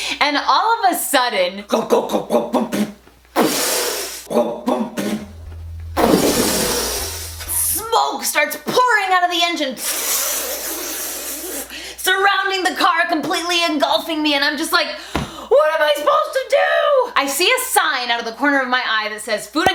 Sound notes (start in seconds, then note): 3.4 explosion; 9.7 hissing